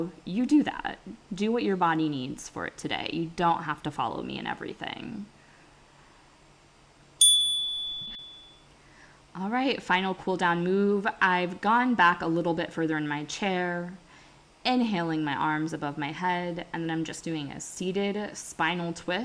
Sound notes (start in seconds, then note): 7.2 chime